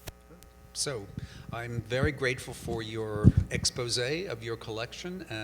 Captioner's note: voiceover